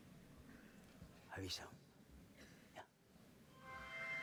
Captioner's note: speaking spanish